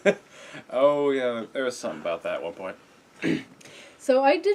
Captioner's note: laugh; clears throat